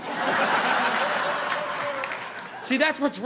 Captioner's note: audience laughing